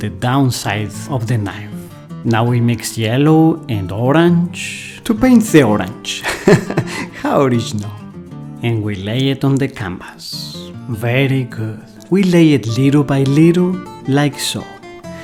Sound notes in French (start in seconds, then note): 6.2 rires